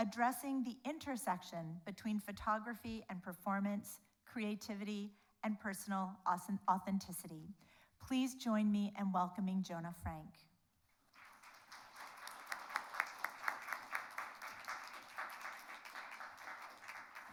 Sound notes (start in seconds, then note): 11.1 audience applauds